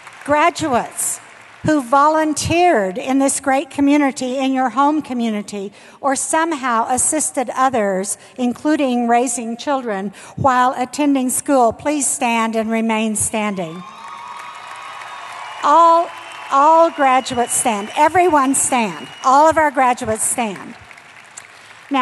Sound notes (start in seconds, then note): 0.0 applause; 13.9 applause